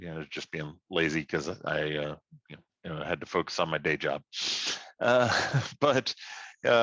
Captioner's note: laughs